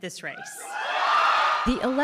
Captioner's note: cheering and applause